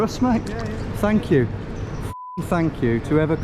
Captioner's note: beep